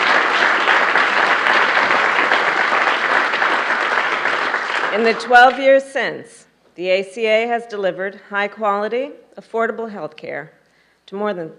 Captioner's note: applause